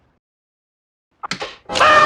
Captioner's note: clanking; screaming